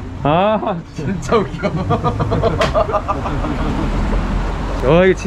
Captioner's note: laughs